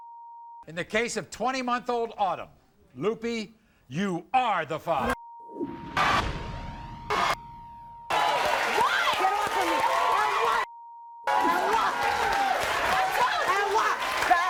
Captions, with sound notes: - In the case of 20 month old Autumn Loopy, you are the father. (audience cheers) (guests cursing and yelling)